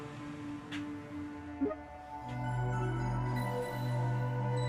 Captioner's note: airy button; startup tune